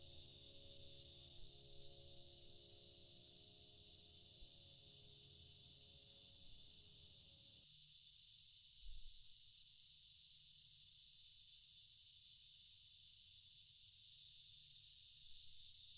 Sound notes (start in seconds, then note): none